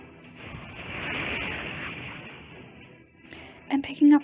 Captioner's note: rocket sounds